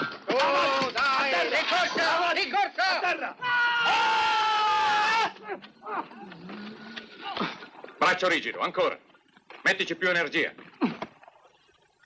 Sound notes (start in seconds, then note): 3.9 man yells; 5.8 grunting